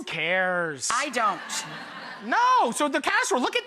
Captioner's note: audience laughing